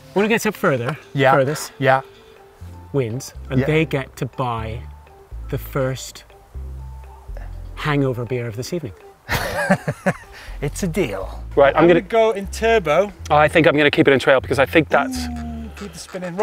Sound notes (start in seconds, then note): 9.3 laughing